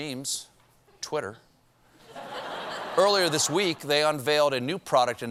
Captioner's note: laughter